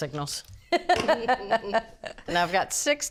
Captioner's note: both laughing